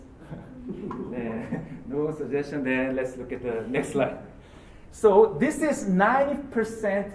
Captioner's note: laugh